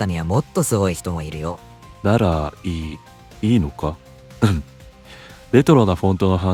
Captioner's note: clears throat